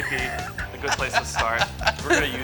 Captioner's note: laughter